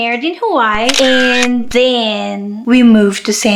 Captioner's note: camera click